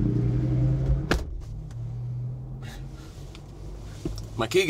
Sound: door slamming

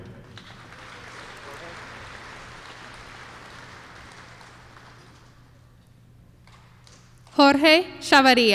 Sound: applause

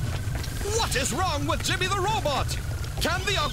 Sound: narrator Voice

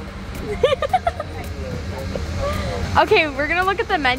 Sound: laughs

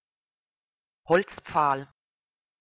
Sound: fast Pronunciation

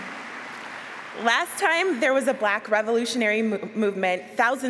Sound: applause

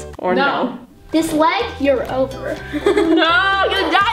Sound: laughs

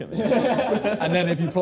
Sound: laughing

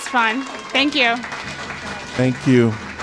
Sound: applause

